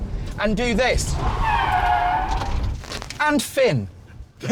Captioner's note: tyres screech